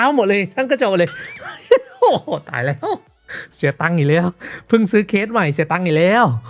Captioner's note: laughs